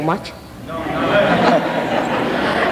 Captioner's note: laughter